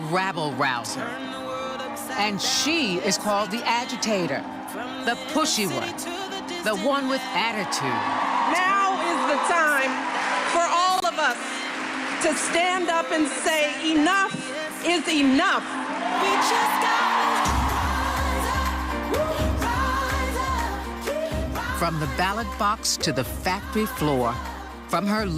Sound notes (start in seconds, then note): 18.4 cheering and applauding